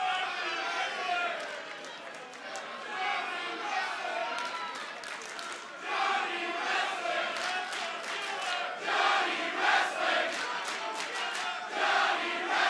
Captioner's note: fans chanting